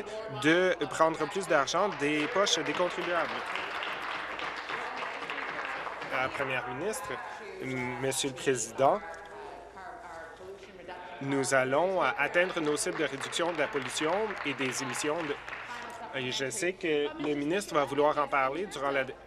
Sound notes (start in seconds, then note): 6.2 applause